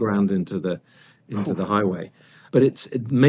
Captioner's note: exhales